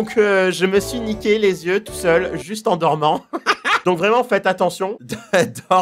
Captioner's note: laughs